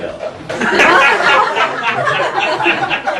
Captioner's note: laughing